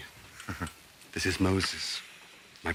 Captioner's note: laughs